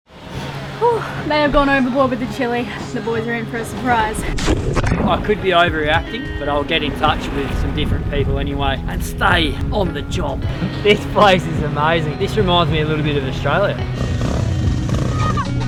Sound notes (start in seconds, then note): 4.4 water splashes; 14.2 motorcycle engine revs